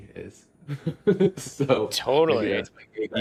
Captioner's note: laughs